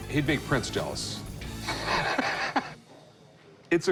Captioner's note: laughter